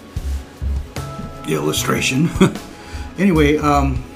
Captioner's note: laughter